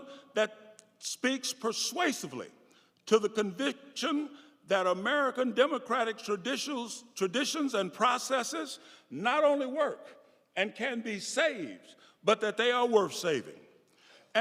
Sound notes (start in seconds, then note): none